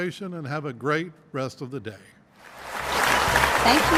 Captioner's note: applause